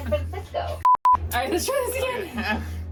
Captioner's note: beeps